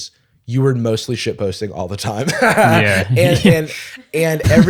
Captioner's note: laughs